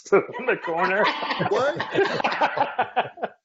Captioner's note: laughing